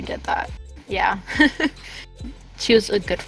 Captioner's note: laugh